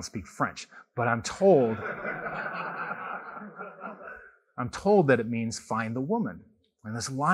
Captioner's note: laughter